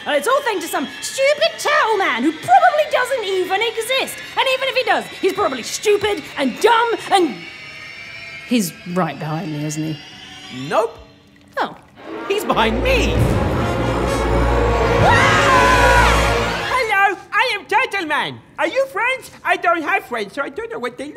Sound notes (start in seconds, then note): 11.9 dramatic, tense music; 12.0 eerie music ends; 14.9 Ben and Lucy cry out in terror; 15.0 music ceases